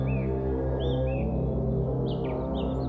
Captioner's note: birds